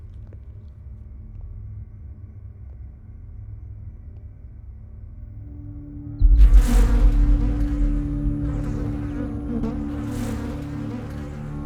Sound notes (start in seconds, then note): 6.6 flies buzzing